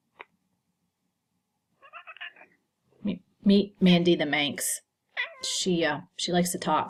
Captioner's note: cat meowing